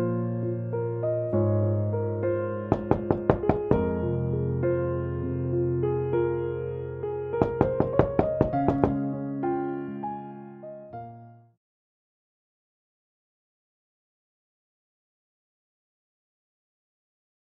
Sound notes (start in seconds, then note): 2.7 knocking on door; 6.1 soft music